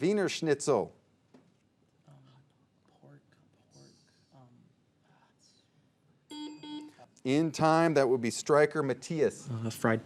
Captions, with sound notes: Wiener schnitzel. - Pork, pork? (buzzer beeping) (bell dinging) In time, that would be Stryker, Mattias.